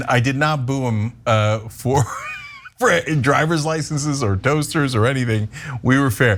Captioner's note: laugh